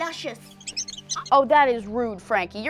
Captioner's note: squeaking